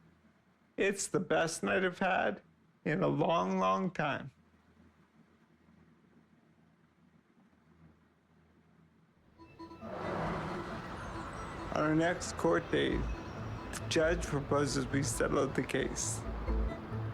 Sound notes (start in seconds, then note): 9.3 subtle music; 9.5 traffic sounds